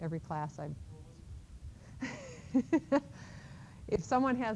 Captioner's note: chuckles